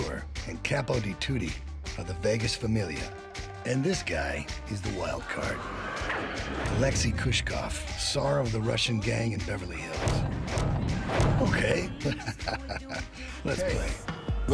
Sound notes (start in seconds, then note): 11.6 chuckles